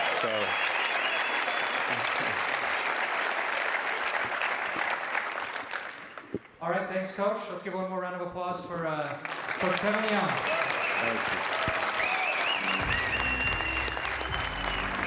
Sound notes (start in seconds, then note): 5.4 cheers and applause